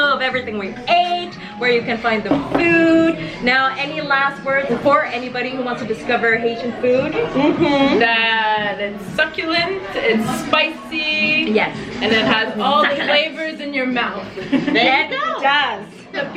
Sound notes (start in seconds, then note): 14.3 laughs